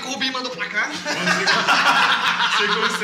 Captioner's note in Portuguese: Risadas